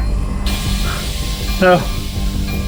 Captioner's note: gas hissing